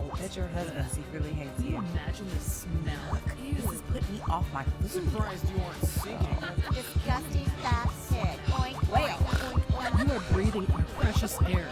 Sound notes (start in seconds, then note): 7.4 laughing